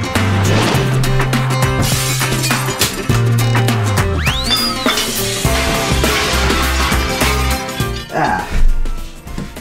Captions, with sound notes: (glass breaking) (items whistling) (pots clanging) Ah, here we go.